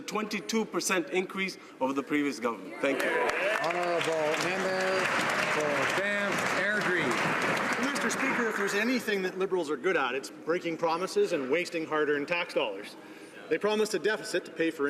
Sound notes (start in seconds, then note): 6.4 some Applause